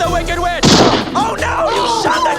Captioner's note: gunshot